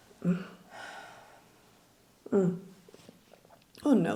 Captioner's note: Nellie sighs